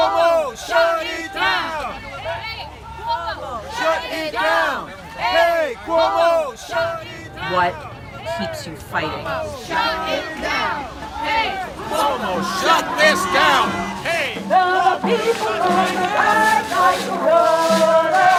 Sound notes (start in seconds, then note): 10.4 chanting; 13.9 singing